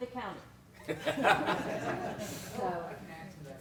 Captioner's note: laughter